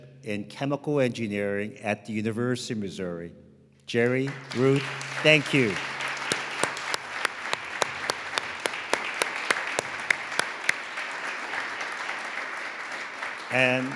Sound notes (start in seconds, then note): 4.6 audience applauding; 7.8 all applauding